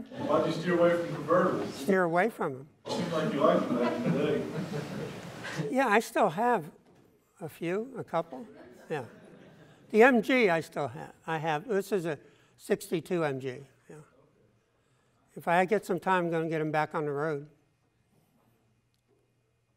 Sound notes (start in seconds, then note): 1.0 voiceover; 3.1 voiceover